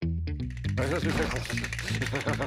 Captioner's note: teeth chattering